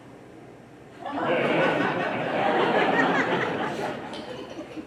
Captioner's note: audience laughs